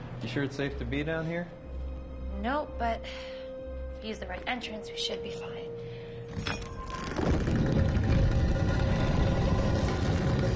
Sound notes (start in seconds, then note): 6.6 scraping